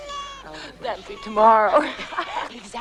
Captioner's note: laughing